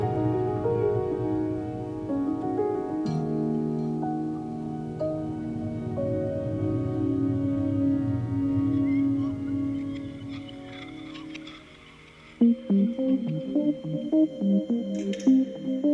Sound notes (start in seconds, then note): 0.3 tranquil music; 9.4 scratching sounds; 13.1 lively music